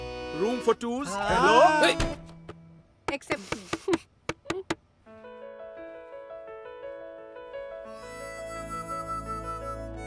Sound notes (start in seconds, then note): 4.3 knocking on door